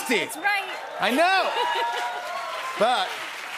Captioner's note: cheers and applause